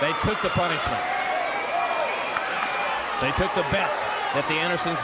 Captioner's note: crowd cheering